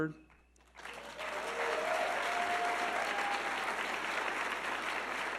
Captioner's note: audience clapping